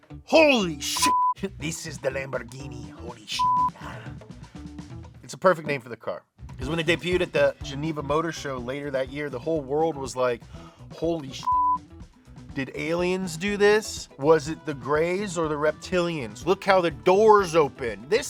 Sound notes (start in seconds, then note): 0.6 beep; 11.4 beep